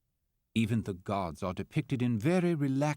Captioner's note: voiceover